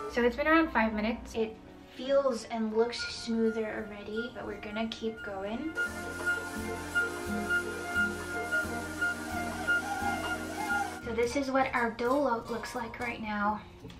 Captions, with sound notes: So it's been around five minutes, it feels and looks smoother already, but we're gonna keep going. (cheerful music) (mixer running) So this is what our dough looks like right now.